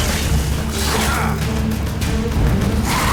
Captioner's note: cries out